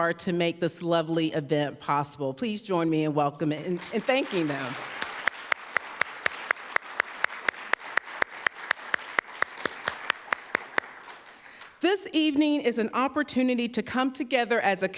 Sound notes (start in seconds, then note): 5.4 audience applauds